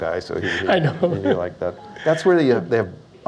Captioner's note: laughs